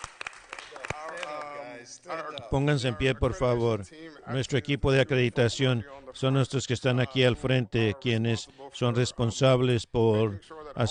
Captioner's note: applause